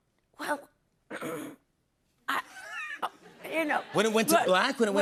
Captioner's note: clears throat